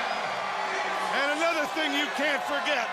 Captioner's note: crowd cheering